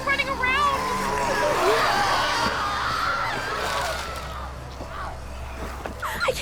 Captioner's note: growling, people screaming